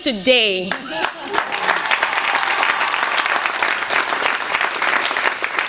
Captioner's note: cheers and applause